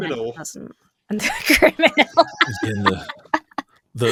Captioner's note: laughs